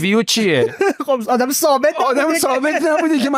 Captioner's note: laughs